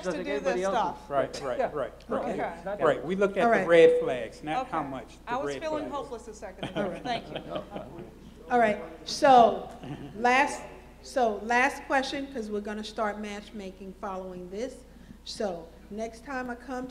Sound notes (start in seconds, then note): 6.6 laughs